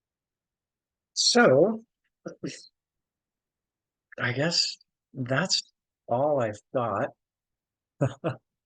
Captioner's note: laughs